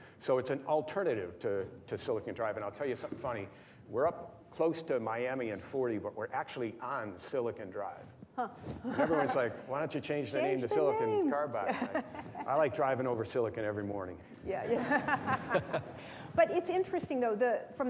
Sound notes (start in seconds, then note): 14.7 laughs